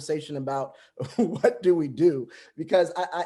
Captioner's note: laughs